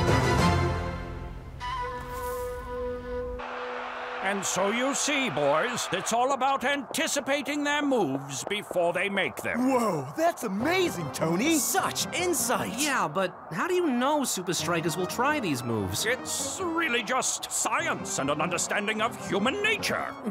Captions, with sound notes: (crowd cheering) - And so you see, boys, it's all about anticipating their moves before they make them. - Whoa! That's amazing, Tony! - Such insight! - Yeah! But... how do you know Supa Strikas will try these moves? - It's really just science and an understanding of human nature.